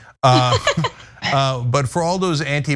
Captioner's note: laugh